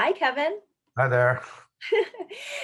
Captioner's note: chuckles; laughing